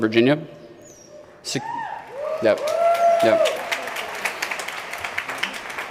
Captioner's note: applause